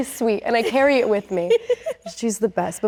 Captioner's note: laughs